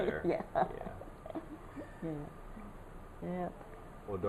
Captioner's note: laughs